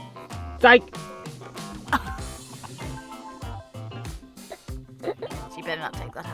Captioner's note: laughs